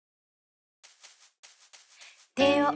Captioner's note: footsteps on grass